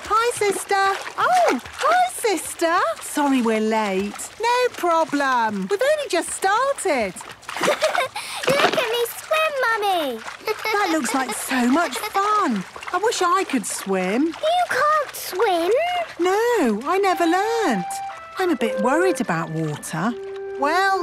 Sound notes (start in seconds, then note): 7.6 giggles